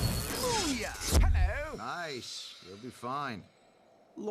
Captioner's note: English accent